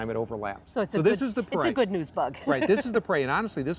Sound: laughs

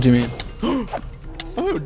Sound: gasps

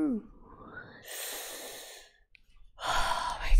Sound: breathes; sharp inhale

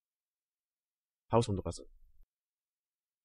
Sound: fast Pronunciation

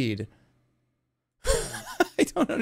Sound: laughs

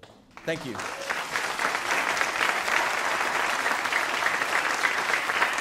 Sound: audience applauding

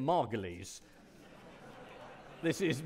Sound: audience laughing

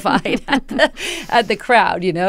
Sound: laughter

